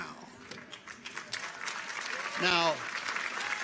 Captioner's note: audience applauds